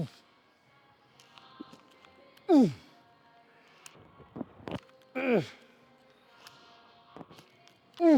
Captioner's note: grunts; grunts